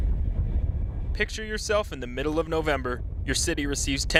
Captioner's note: voiceover